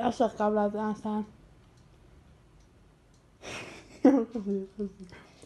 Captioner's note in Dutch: lacht; mompelt en lacht